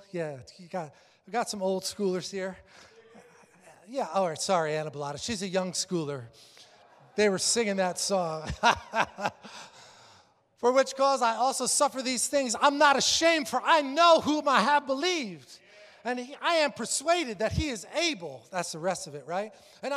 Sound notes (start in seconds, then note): 8.4 laughs